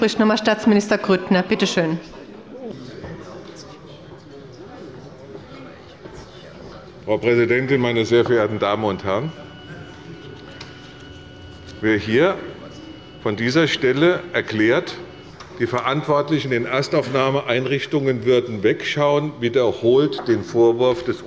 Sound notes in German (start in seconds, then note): none